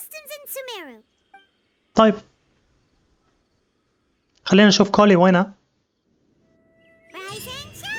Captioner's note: silence